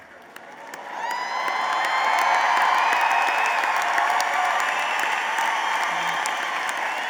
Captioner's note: applause